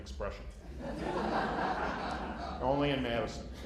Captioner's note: laughter